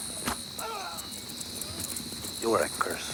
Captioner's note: rider groans